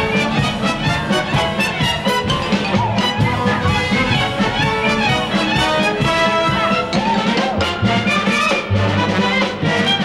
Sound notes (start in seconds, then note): 0.1 upbeat band music; 2.2 performers cheer